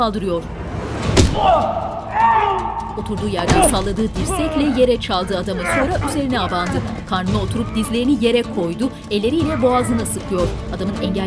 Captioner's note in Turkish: Dövüş sesleri